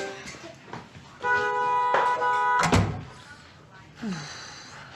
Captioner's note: horn honking; exhaling